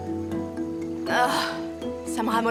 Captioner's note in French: gémissements